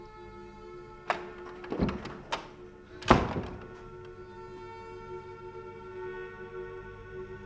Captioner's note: door clattering; pensive music continues